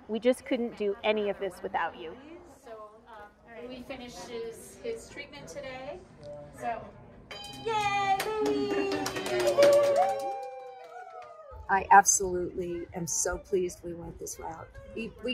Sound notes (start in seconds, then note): 7.3 bell ringing; 9.6 clapping and cheering